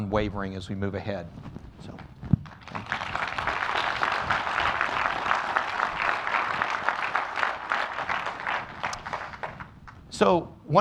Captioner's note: applause